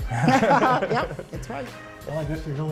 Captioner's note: laughter